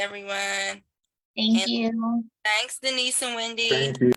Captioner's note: background chatter